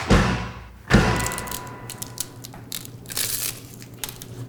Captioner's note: cone cracking